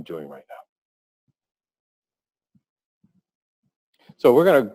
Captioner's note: pause